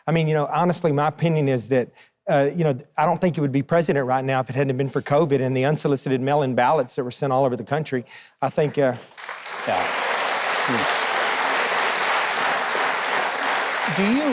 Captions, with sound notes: I mean, you know, honestly, my opinion is that, you know, I don't think he would be president right now if it hadn't have been for COVID in the unsolicited mail in ballots that were sent all over the country, I think. (audience applauding)